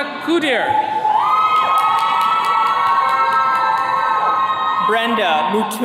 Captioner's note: attendees cheering